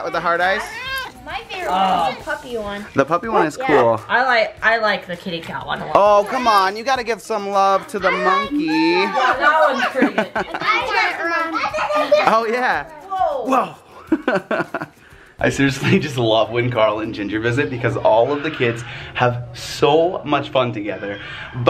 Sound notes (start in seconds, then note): 8.5 laughs; 8.9 everyone laughing and talking